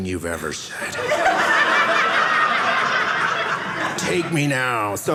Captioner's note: audience laughing